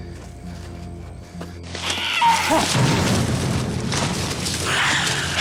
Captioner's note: gasps; animal shrieks; animal shrieks